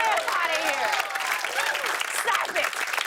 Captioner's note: cheers and applause